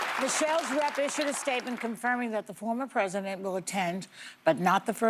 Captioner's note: cheers and applause